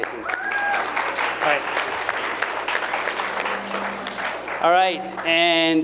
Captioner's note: applause